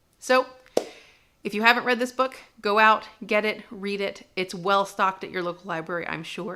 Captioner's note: clap